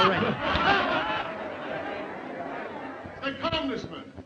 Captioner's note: all laughing